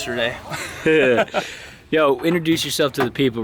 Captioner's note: laughing